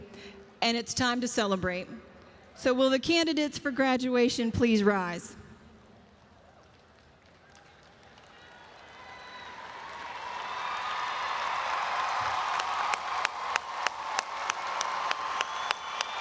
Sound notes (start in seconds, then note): 7.1 audience applauds and cheers